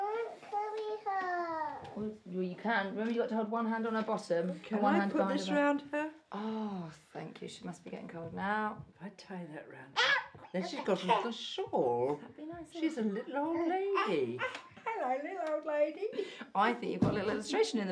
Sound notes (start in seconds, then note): 10.0 squeals